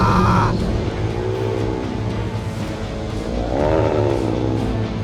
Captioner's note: werewolf growling